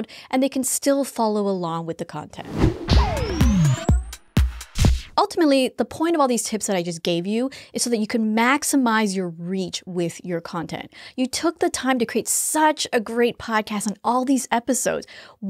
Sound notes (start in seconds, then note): 2.4 air whooshing; 2.5 upbeat music